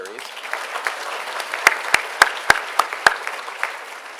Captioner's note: attendees applauding